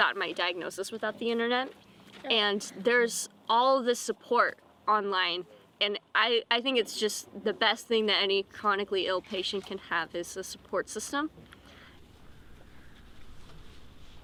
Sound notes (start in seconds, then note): none